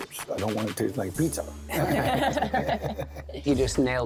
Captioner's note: laughter